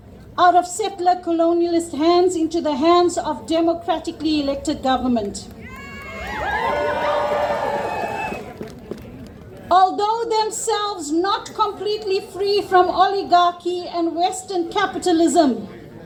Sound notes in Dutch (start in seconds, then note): 5.6 Gejuich